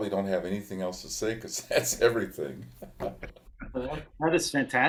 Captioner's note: participants chuckle